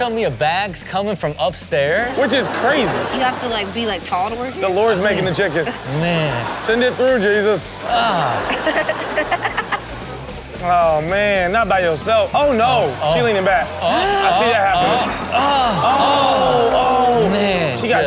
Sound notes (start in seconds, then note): 9.2 Chanel laughing; 14.2 Chanel gasping